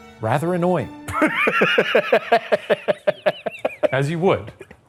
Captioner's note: laughing